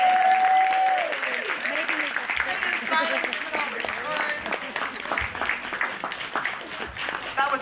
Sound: applause

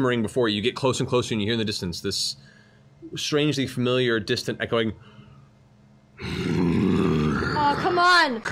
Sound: growls

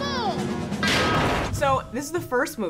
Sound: metal rattling

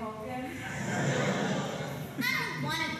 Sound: laugh track

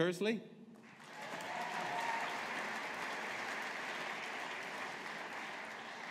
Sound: audience applauding

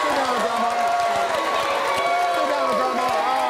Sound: audience cheering

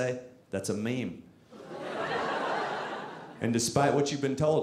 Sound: audience laughing

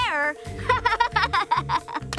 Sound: laughing

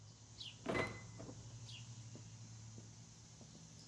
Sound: birds chirping

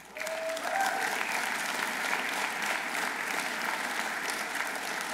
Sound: audience applauding

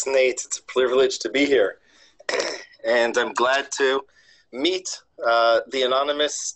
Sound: cough

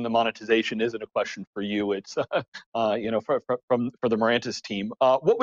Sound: chuckling

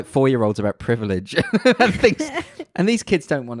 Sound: laughs loudly

